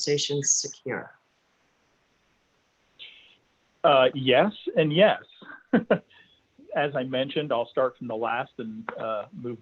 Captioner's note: chuckles